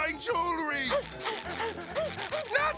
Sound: gasping

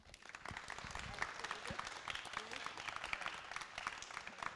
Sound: applause

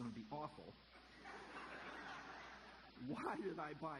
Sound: audience laughter

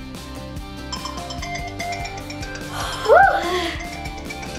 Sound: alarm ringing

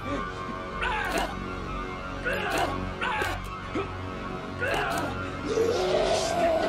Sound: laughing; snarling; blows thudding; grunting; snarling

